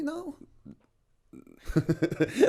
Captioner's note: laughter